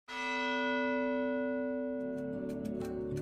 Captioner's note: bell Toll